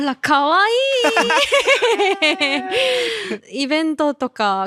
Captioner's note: haha